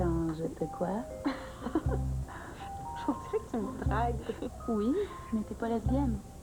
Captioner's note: Rire